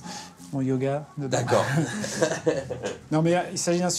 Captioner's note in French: rires